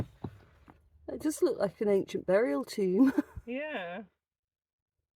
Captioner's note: laughing